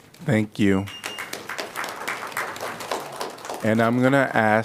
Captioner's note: applause